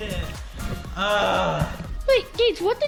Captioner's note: groans